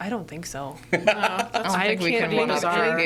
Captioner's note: laughs